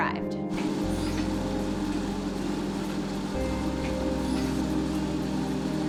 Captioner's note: treadmill whirring over dramatic electronic music